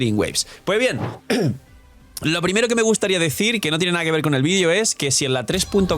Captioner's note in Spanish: carraspeo